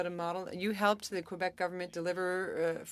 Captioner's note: speaking French